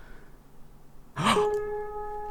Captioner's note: gasps